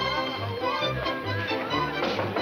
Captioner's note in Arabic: طرق على الباب